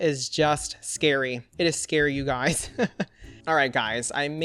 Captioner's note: laughs